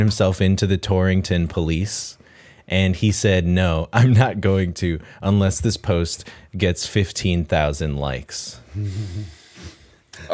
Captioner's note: chuckle